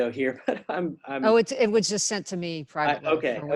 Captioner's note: laugh